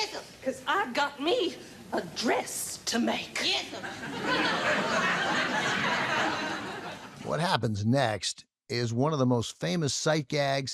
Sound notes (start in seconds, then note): 3.8 audience laughing